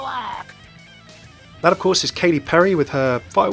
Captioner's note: voiceover